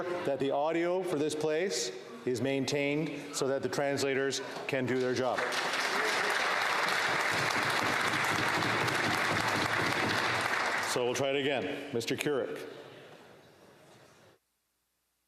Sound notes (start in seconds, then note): 9.5 applause